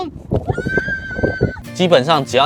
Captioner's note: scream!~